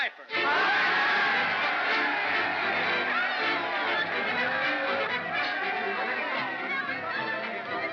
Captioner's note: jovial music; cheering; jovial music